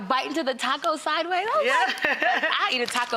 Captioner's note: laughs